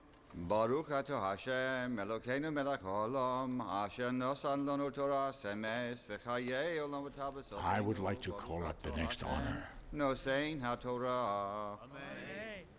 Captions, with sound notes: (chanting Hebrew) - I would like to call up the next honor.